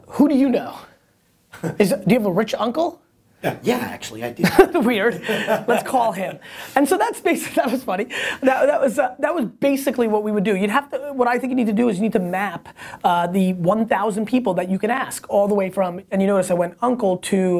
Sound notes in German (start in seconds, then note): 4.4 Lacht